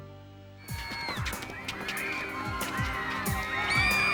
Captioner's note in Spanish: gente gritando